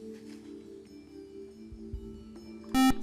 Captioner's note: buzzer